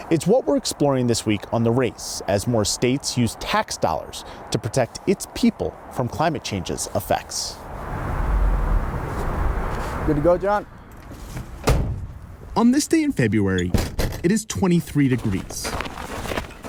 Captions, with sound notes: It's what we're exploring this week on "The Race", as more states use tax dollars to protect its people from cl (winds gust)s effects. Good to go John? (vehicle door slams) On this day in February, it is 23 degrees.